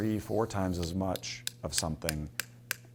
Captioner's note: plastic tapping